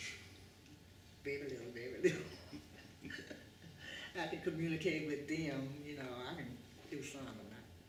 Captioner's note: laughter